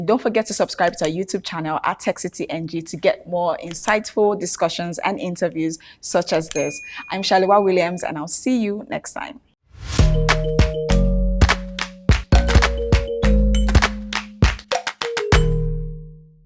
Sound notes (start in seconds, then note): 6.6 bell chiming